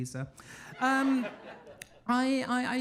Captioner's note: audience laughing